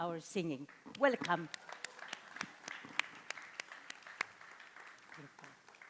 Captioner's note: audience applauding